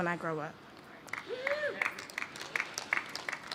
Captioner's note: applause